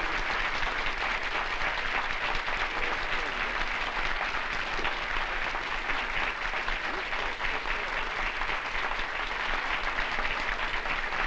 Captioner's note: applause